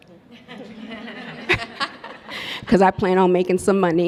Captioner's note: all laugh